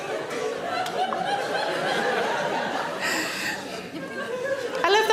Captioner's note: audience laughs